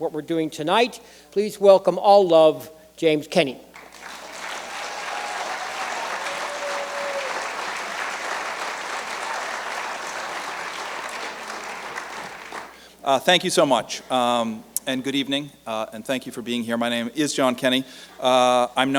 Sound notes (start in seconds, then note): 5.8 cheers and applause